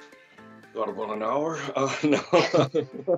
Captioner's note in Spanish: risas